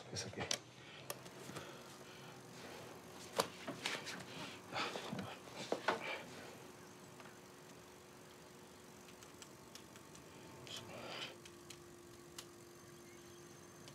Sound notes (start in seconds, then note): 1.1 device vibrating